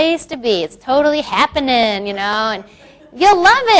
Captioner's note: crowd laughs